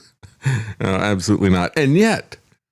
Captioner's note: laughs